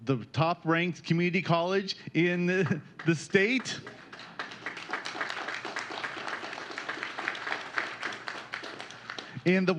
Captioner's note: applause